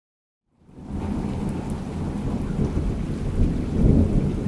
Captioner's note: thunder rumbling